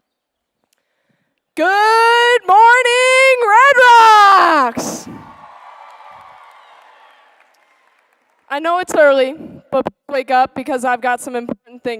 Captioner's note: applause